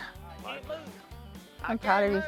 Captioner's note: none